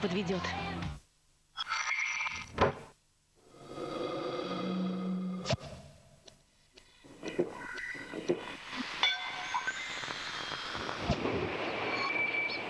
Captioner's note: smacking